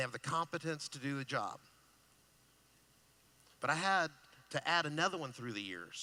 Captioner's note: none